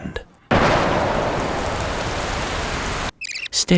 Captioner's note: thunder booming; tape rewinding